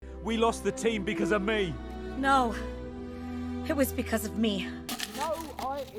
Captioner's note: eating popcorn